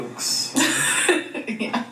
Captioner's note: laughs